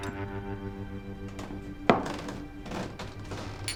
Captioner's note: glasses clanking